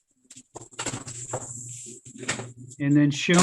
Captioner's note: door opening